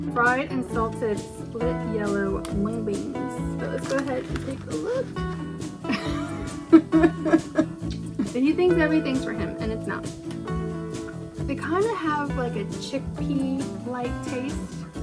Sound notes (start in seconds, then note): 5.8 laughs; 6.4 kiss noise